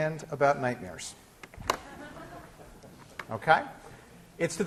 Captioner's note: laughter